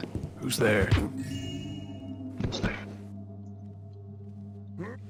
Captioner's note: Blackjack thuds, joyous chime